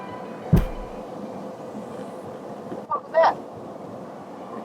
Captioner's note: tire pops